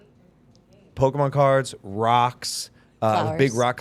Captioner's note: mom mumbling